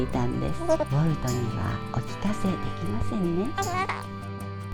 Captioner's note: laughs